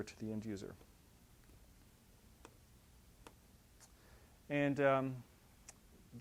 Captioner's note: pause